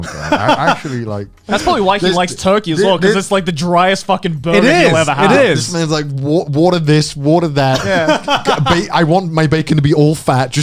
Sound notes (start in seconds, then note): 0.0 chuckling